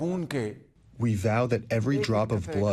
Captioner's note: through translator